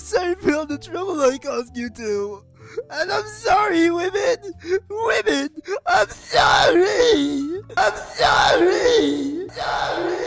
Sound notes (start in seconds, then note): 9.4 echoes; 9.4 echos